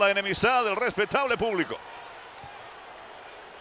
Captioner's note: applause